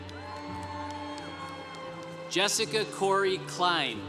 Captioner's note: congregation cheering